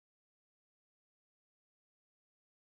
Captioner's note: none